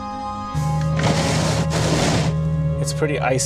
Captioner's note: windshield wipers scrape on ice